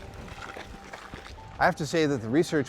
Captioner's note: feet stomping